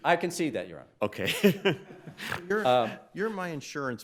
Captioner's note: laughs